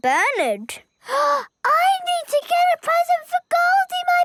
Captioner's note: gasps